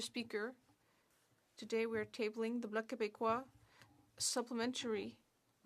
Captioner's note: speaking French